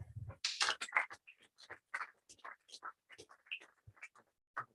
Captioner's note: applause